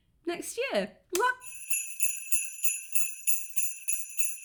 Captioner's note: sleigh bells